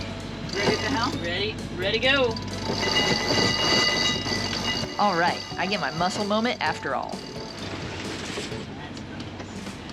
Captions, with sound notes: Ready at the helm? Ready go! (sound of wench cranking) Alright, I get my muscle moment after all.